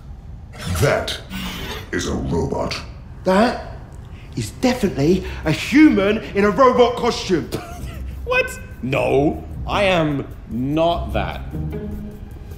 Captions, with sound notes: That... is a robot. That... is definitely a HUMAN in a robot costume! (forced laughter) What?! No! I am... not that.